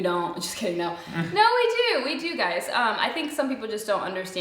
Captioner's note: chuckles